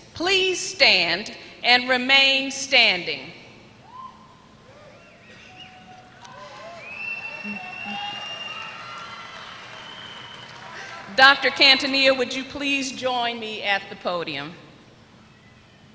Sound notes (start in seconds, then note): 6.0 applause